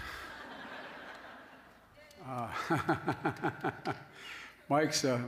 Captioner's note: laughter